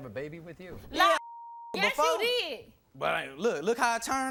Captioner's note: beep